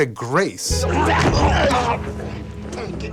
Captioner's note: groaning